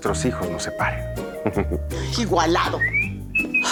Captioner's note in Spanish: Ríe